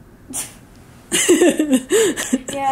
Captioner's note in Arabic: يضحكان